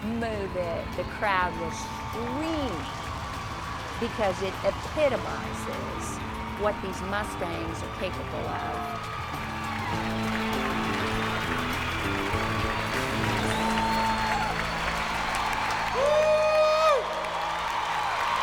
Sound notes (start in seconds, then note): 14.6 cheers and applause